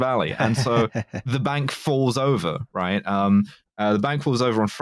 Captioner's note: laughs with a villainous tint